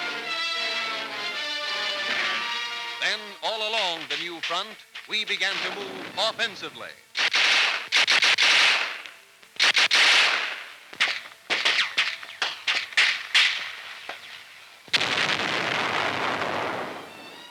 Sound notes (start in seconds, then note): 7.1 gun fire and artillery fire